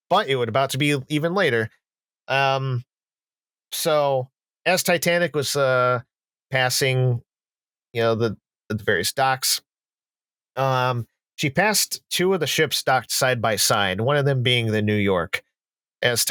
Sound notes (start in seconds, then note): none